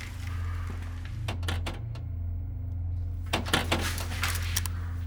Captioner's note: springy clanging